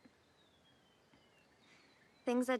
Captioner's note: birds chirping